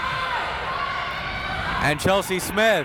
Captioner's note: crowd members shouting